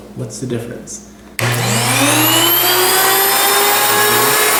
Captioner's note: grain mill motor revs up